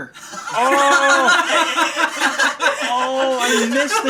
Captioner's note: laughing